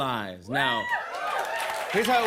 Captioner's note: cheers and applause